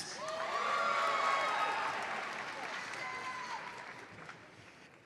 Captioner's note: audience cheers and applauds